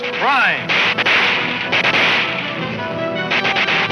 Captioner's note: guns fire; dramatic music